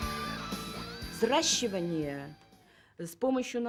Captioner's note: speaking Russian